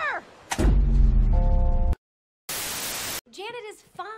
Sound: magical Poof

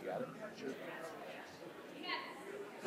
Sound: people chattering

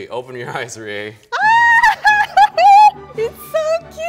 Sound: screaming and laughing

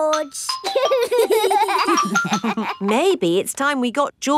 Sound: giggling

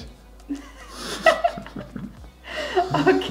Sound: both laughing

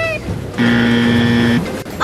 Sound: buzzer buzzes

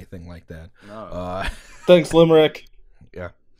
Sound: laughter

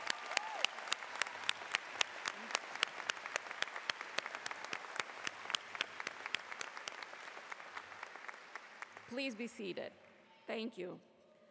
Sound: cheers and Applause

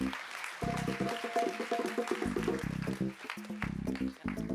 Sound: applause

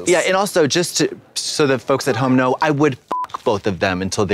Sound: beep

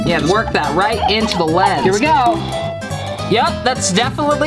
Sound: blowing on lens

